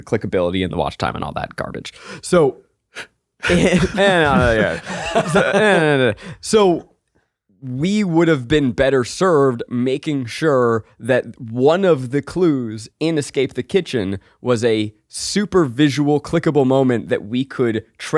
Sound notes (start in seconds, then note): 3.4 chuckling; 3.5 murmuring